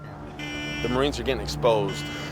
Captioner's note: car horn